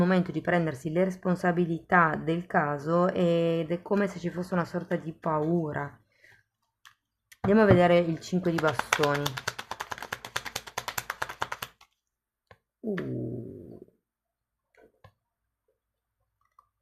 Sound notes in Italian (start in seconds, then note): 8.6 Applauso